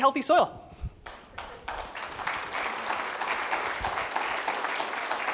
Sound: applause

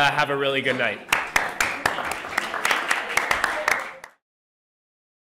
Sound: applause

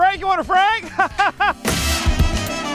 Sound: laughs

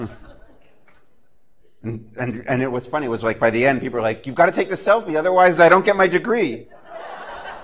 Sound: laughter

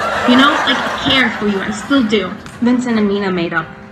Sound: laugh track sound

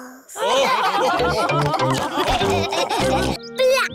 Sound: laughter

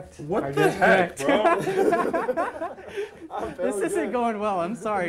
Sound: laughter

